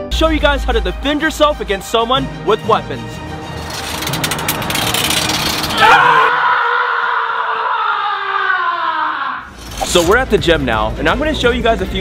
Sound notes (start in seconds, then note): 5.7 screaming